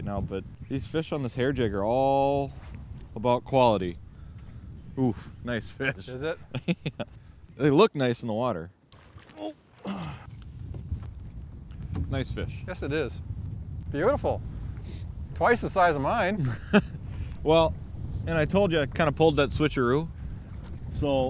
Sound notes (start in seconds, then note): 7.1 laughing